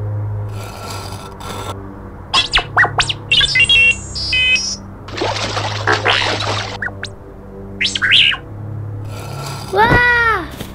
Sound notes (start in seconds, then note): 0.6 rocks scraping; 2.3 electronic beeps; 5.0 splash